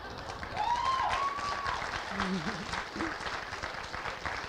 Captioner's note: laughing